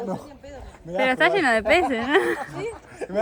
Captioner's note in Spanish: risas